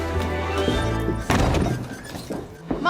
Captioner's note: door slams